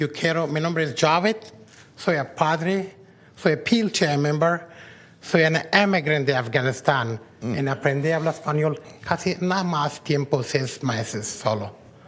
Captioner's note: speaking spanish